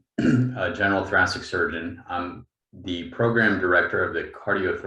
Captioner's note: clears throat